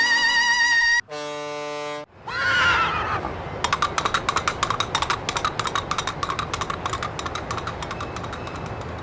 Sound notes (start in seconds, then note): 0.0 boat horn; 2.1 horse whinnying in fright